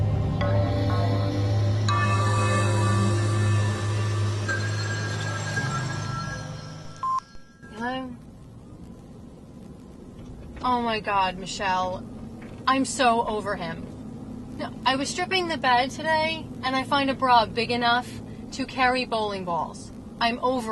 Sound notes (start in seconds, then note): 0.0 car; 2.0 phone rings